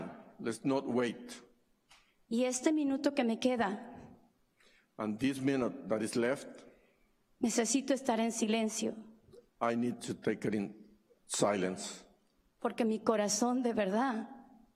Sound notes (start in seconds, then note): 2.5 speaking spanish